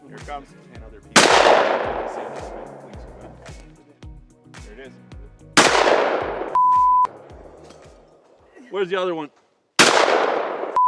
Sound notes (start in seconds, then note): 1.1 gun shooting; 5.6 gun shooting; 6.5 beep; 9.8 gun shooting; 10.7 beep